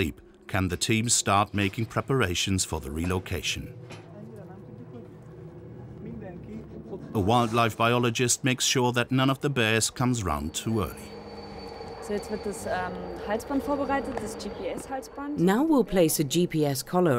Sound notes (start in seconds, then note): 11.9 speaking in foreign language